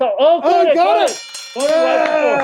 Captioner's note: bell ringing